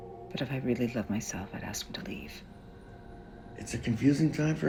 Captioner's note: none